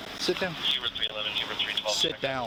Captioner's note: radio chatter